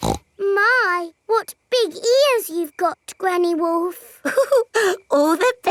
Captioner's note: snorts; chuckles